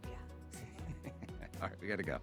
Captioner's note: laughing